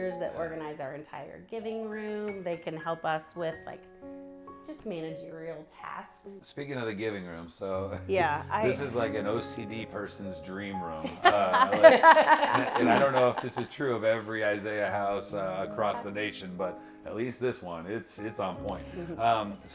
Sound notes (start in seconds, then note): 11.0 group laughing